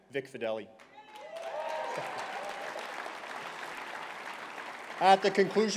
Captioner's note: cheering and applause